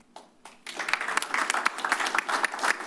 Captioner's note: applause